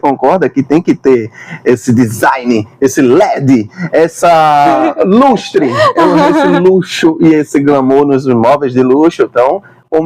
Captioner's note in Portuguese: risadas